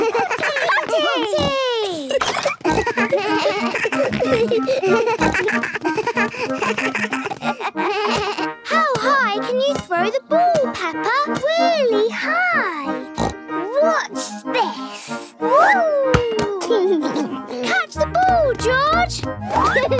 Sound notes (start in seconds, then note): 2.5 giggles; 4.2 snorts, bleating; 13.1 snorts; 16.4 giggles